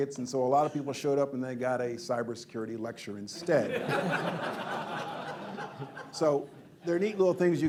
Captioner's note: laughter